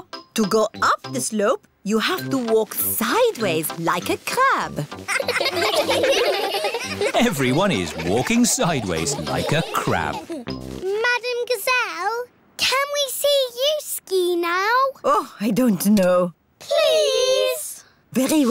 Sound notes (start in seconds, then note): 5.0 laughing